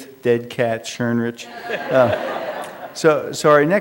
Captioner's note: laughter